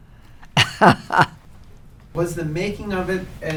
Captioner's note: Lily laughs